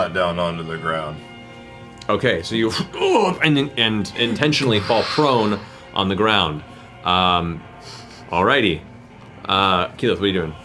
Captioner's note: grunting